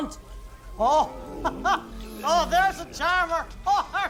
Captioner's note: laughs